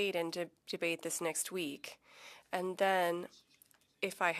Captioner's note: speaking French